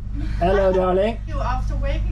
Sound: laughs

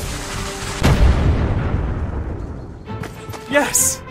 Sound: exploding

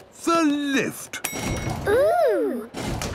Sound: lift pings

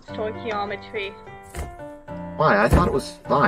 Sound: thump, THUMP, THUMPPP

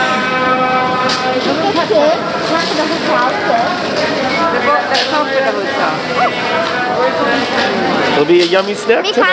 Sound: market noise & conversation

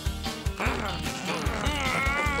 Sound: growling

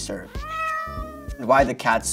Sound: cats meowing

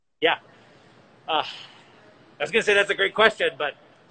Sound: scoffs

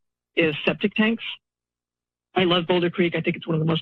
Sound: pause

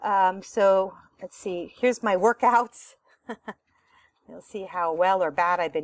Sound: laughter

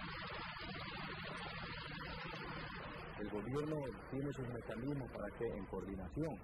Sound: non-English narration

